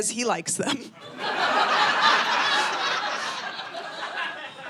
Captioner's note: audience laughing